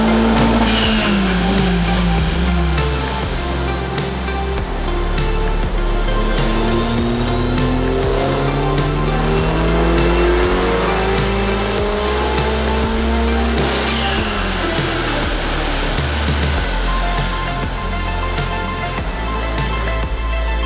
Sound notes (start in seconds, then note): 4.7 upbeat music continues; 8.4 engine revs up slowly; 17.1 upbeat music continues